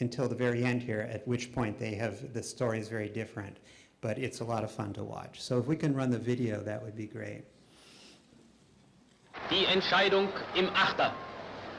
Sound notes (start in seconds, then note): 9.5 german speech